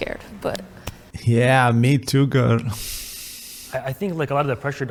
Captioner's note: exhale